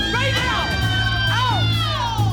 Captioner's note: dramatic music; women screaming